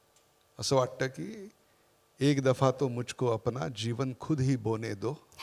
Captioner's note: reciting Hindi Poem